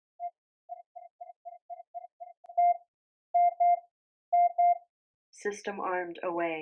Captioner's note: faster rhythmic beeping